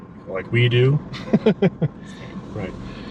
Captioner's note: laughing